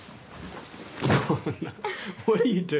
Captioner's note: thuds; chuckling